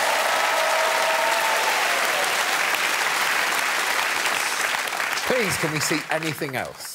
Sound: cheers and applause

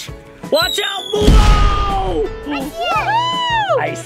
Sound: pumpkin booming

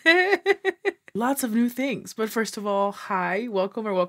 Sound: laughs

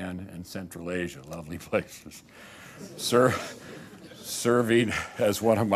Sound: laughter

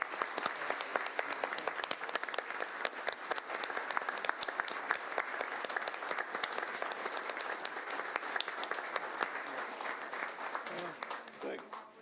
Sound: applause

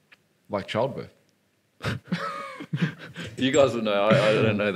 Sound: laughing

